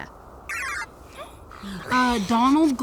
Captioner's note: electronic computer sounds playing